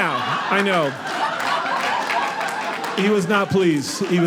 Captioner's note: audience laughing